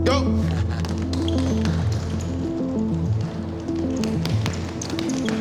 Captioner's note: shoes squeaking